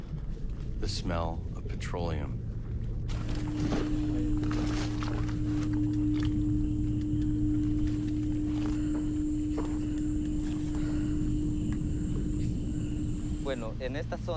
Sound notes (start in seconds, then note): none